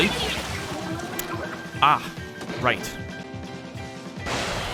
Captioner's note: lip smack